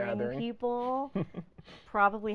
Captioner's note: laughing